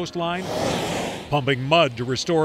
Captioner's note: machinery whirring